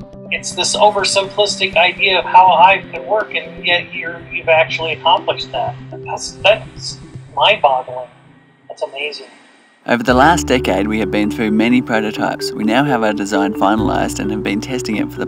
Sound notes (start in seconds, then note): 9.9 voiceover